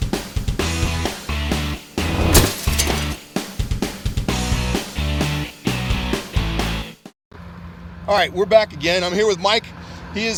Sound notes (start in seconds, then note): 2.0 hammer whooshing; 2.0 concrete shattering